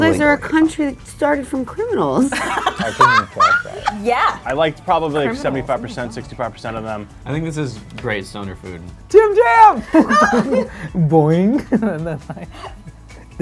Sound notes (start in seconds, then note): 2.3 laughing; 9.8 laughs